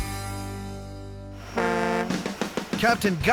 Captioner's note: boat horn